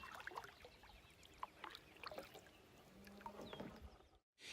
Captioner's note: water gurgling